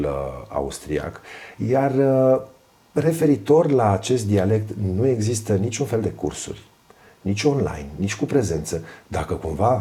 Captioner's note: dialect